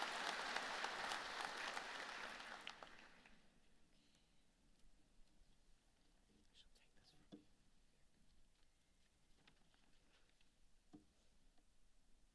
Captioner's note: applause